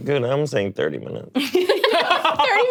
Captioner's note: all laughing